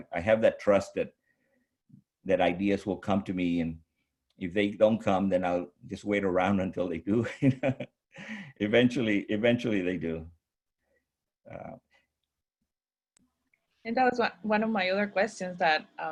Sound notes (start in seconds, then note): 7.5 laughs